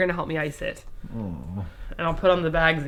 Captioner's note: groans